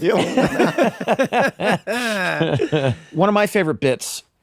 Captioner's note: guys laughing